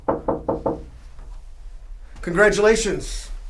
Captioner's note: knocking on door